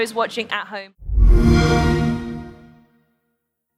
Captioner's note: xbox sound